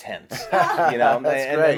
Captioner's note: laughter